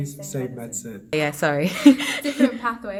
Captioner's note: laughs